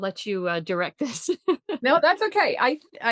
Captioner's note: laughs